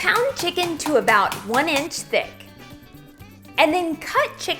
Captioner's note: pounding mallet